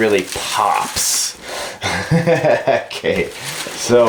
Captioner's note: laughs